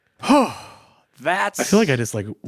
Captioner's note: sighs